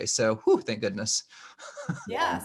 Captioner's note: gasps